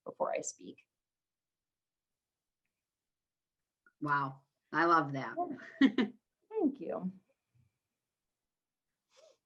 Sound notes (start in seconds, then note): 5.6 chuckles